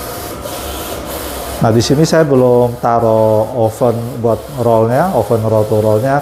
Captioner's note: printer machine noise